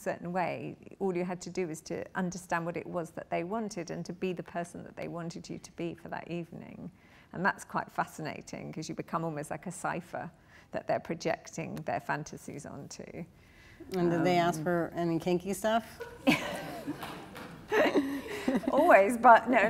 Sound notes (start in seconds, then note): 15.9 laughter